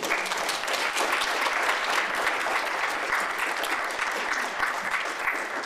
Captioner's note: applause